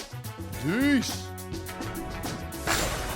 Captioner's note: calls out